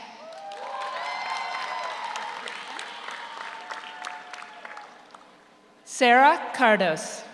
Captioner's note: audience cheers; audience applauds